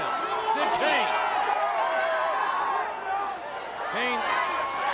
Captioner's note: audience cheers